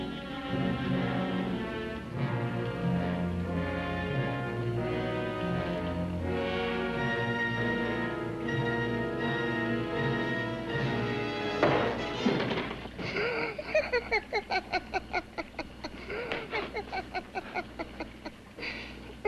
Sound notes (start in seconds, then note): 11.6 knocks on door; 13.0 Jan laughs